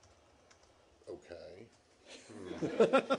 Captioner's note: laughter